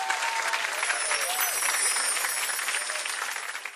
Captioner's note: bells chime